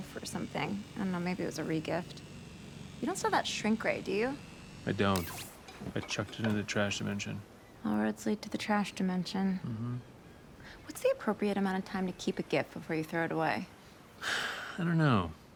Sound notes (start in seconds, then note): 5.1 sword whirs; 14.2 sighs